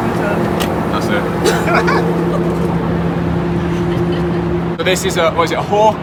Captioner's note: both laugh